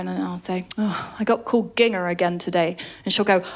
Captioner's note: sighs